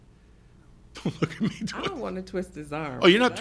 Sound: laughs

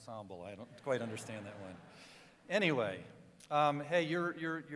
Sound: cheering

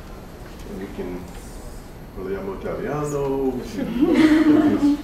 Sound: non-english speech

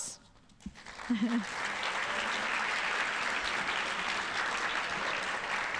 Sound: audience applauding

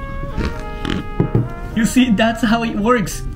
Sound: slurps; can thuds

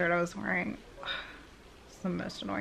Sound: sighs

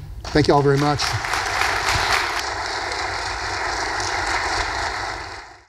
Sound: audience applauding

